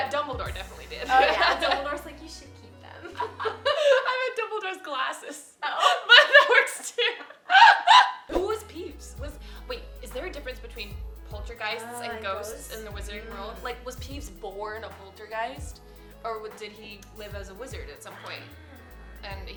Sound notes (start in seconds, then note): 3.1 laughs; 5.6 laughs